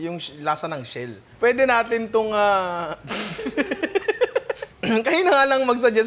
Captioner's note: laughter